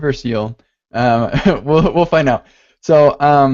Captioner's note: laughs